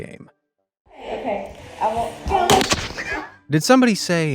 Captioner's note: ball crashes